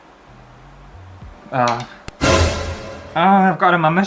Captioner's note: alert